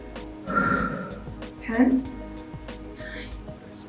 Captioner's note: exhales